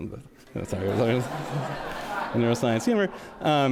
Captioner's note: audience laughs